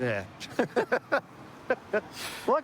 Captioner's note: laughter